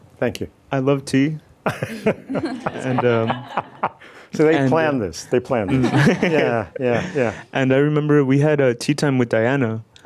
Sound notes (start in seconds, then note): 1.8 audience laughs; 5.7 audience laughs